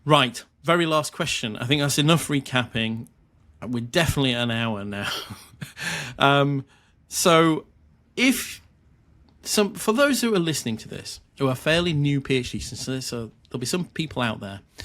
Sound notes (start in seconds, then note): 5.0 chuckles